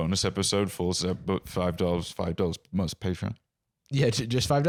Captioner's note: stammering